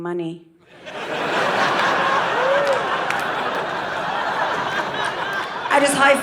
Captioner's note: audience laughing